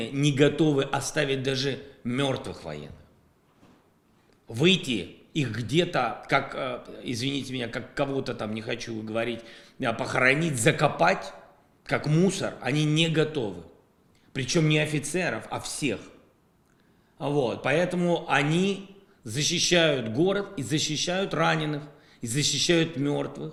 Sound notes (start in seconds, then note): 19.6 Russian